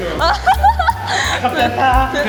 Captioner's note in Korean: 꺄르르